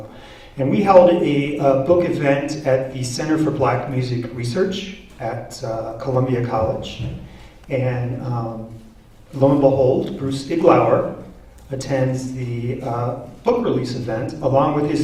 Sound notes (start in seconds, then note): none